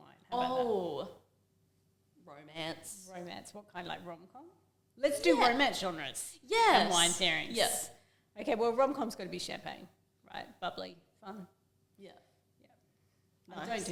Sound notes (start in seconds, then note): none